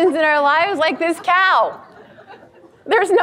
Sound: audience laughs

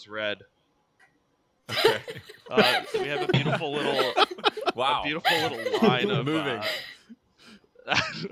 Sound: laughter

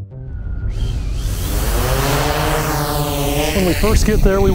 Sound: drone propellers whirring

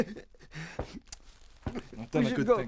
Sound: sobs

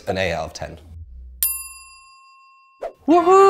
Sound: bell dings

